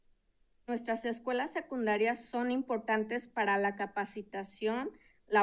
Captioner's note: speaking in Spanish